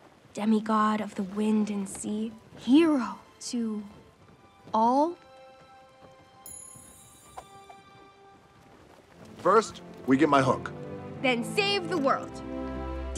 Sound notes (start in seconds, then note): 6.4 clinking